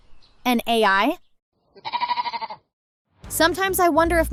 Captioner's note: bleating